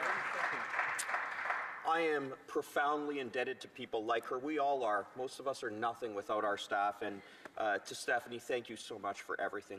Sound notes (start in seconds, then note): 2.4 applause